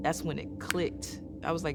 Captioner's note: snaps